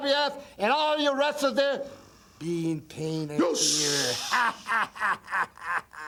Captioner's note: laughs